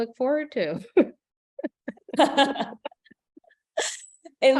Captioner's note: laughter